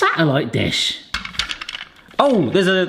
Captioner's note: mould rattles